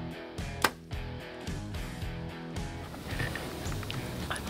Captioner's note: arrow shot